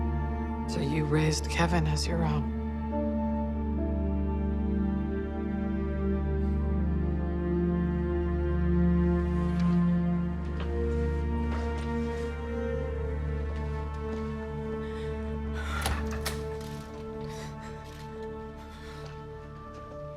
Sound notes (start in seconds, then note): 14.8 sighs